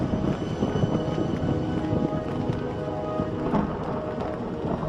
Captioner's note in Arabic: طقطقة الرعد